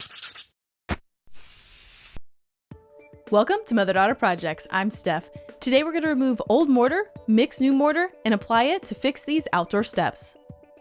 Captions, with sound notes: (paint spraying) - Welcome to "Mother Daughter Projects." I'm Steph. Today we're gonna remove old mortar, mix new mortar, and apply it to fix these outdoor steps.